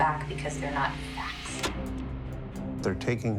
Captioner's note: clicking